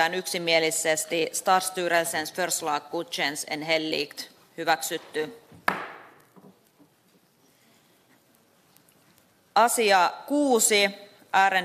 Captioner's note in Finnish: nuijan kopautus